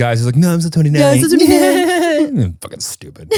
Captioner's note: fake mock laughing